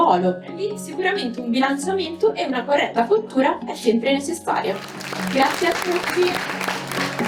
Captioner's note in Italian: Applauso